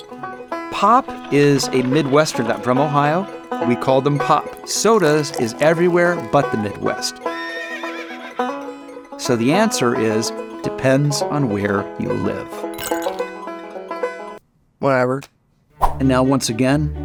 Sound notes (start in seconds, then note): 7.2 horse neighing; 12.7 ice clinking